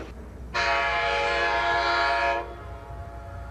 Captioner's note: train whirs; train hoots